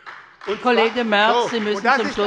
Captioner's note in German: Beifall bei der SPD